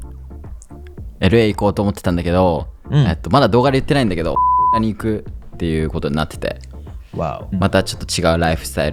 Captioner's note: beep